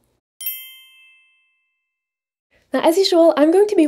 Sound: text chimes

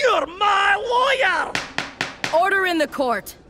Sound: gavel bangs

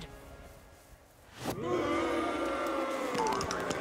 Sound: crowd booing

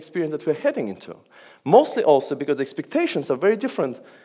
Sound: none

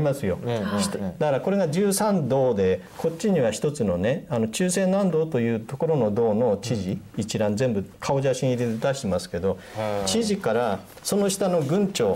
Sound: Korean

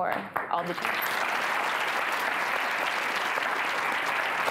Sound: audience clapping

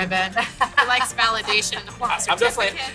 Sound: laughs

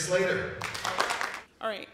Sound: applause

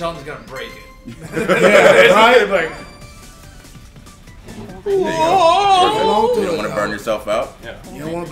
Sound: laugh

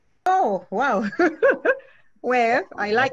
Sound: laughs

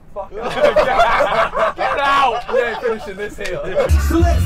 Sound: laughter

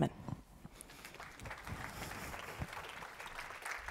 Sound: applause

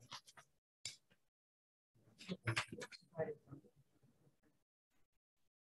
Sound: group chattering

